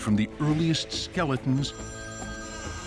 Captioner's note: phone ringing